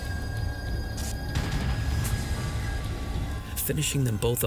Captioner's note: gunshot